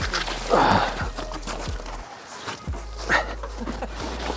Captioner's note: grunting